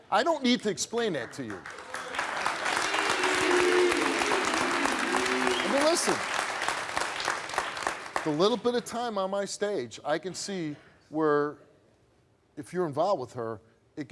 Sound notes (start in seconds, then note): 1.2 audience claps and boos